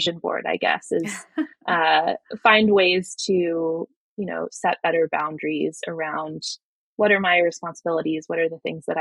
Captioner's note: <Laugh>